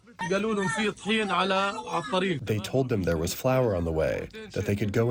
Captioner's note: through translator